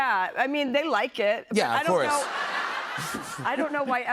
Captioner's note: laughter